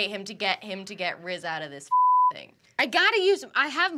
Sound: beep

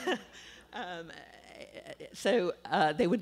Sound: laughter

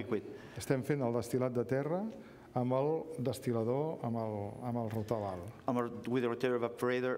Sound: speaking catalan

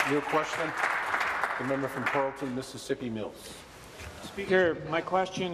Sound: applause

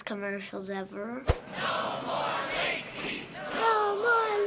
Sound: crowd chanting

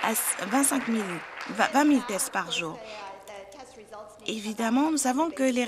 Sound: applause

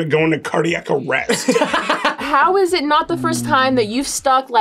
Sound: laughs

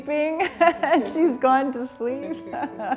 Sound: laughing

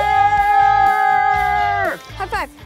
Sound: yelling

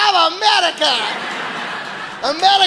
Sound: audience laughing

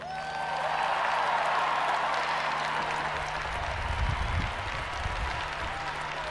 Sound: audience applauding and cheering

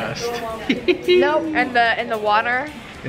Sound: laughing

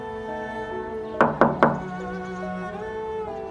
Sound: door knocking

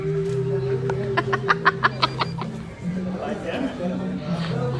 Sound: laughs

